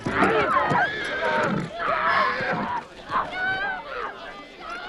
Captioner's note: horse neighs; townsfolk shouting